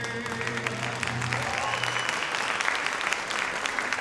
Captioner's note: audience applauds